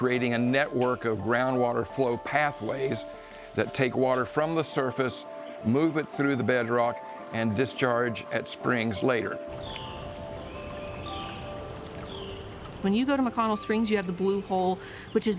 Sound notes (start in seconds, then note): 9.4 birds chirping